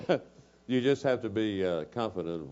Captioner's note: laugh